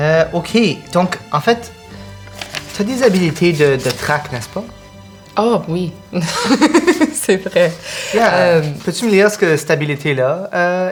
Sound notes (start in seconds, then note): 6.1 she laughs